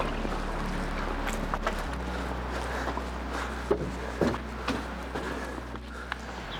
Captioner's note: canoe clunking; somber music